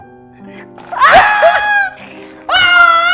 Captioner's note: screaming